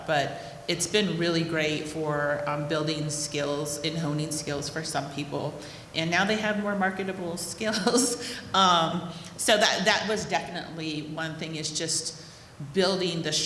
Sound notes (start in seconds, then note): 8.8 chuckles